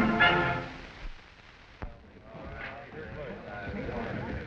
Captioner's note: chattering